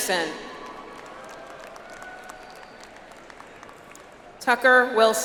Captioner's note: audience applauds